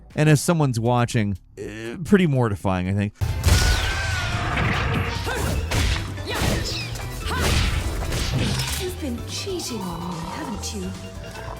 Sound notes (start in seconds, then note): 5.2 Bayonetta grunting athletically; 7.1 flurry of kicks and punches smacking